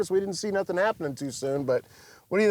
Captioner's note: none